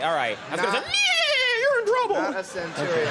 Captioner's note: imitating horse whinnying